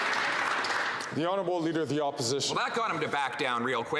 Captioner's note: some Applause